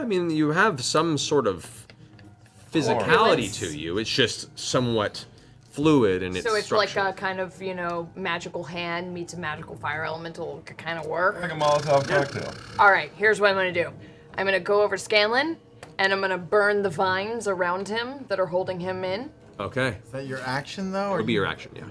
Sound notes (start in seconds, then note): none